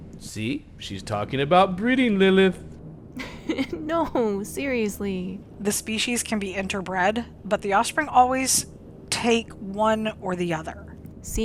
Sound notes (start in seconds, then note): 3.2 laughing